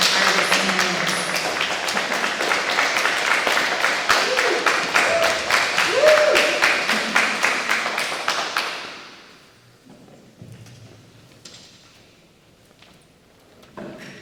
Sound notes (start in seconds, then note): 1.2 audience applauding; 4.5 audience cheering